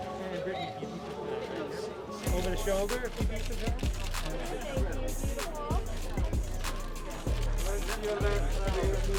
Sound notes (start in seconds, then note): 0.7 crowd murmuring